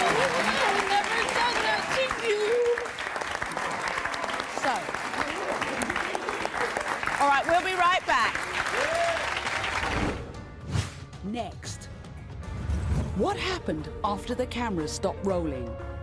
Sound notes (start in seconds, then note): 0.0 applauding; 2.2 applauding